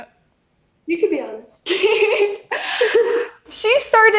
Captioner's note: laughs